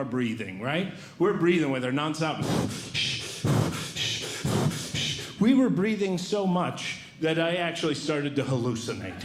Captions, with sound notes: breathing. We're breathing with her nonstop. [Breathing Heavily] We were breathing so much that I actually started to hallucinate.